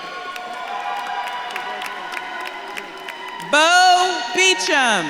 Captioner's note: audience claps and cheers